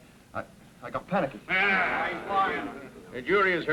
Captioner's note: men murmuring